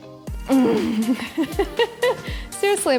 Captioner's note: laughs